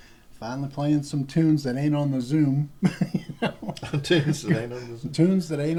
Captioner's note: laughter